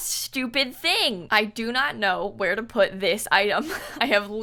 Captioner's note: laughs